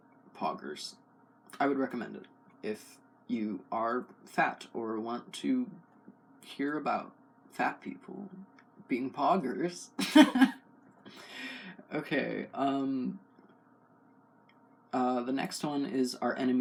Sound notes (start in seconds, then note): 10.0 laugh